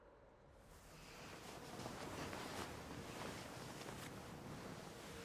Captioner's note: cloth rustles